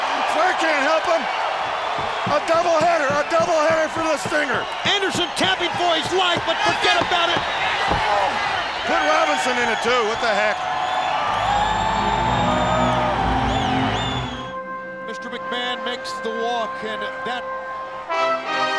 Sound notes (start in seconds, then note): 11.2 motivational instrumental music; 11.3 crowd cheering